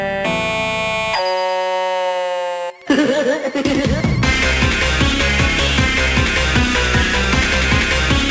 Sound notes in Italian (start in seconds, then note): 2.8 Corrupted Giggle